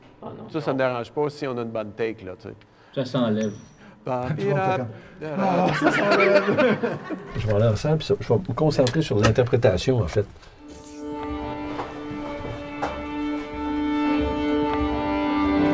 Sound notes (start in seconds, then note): 4.5 sighs of relief; 5.2 laughs; 12.5 orchestra rehearsing